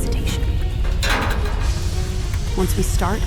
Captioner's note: metal door opening